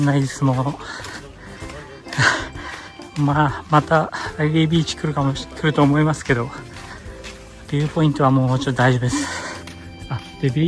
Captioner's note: tears